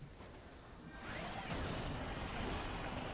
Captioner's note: drill whirring and roaring, electric sparking getting further away; mechanical whirring, crashing of drill hitting the ground